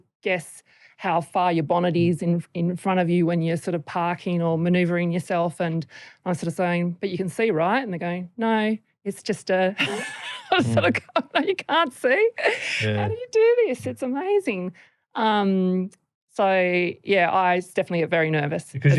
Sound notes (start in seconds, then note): 9.7 laughter